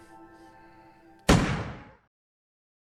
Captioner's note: bang